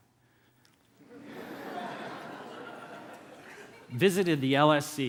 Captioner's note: laughter